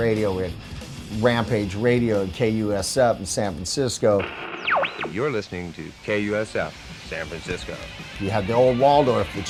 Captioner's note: Radio voice: you're listening to KUSF San Francisco